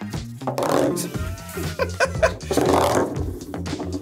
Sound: both laugh

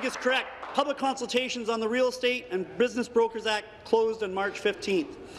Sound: applause

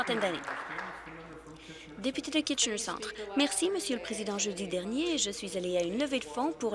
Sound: some Applause

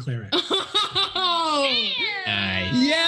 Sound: laughs

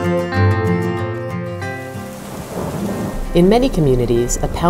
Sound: thunder and rain

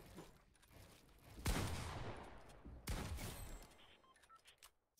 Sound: gun firing loudly

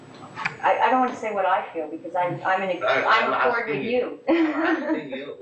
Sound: laughs

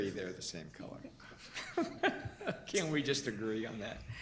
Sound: laughter

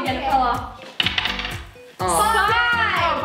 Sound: clanking

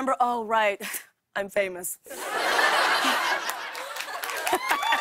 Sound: laughter; cheers and applause

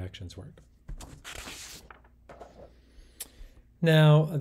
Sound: paper rustling

